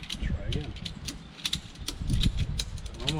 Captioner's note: strap clicking